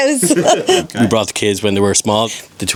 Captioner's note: everyone laughs